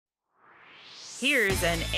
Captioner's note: swoosh